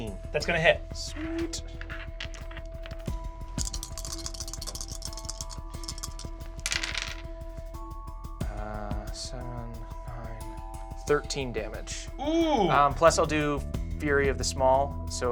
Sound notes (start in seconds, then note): 3.2 electronic music; 6.6 rolls dice